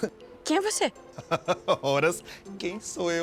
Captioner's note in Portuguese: Homem ri